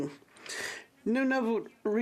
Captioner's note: speaking French